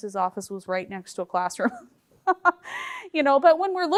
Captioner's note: chuckles